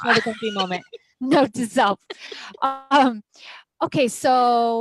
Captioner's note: laughs